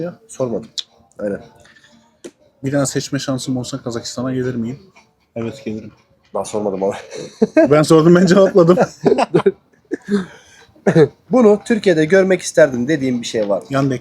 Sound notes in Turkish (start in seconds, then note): 7.0 kahkaha; 9.8 boğazını temizler